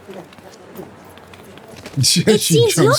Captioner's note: screaming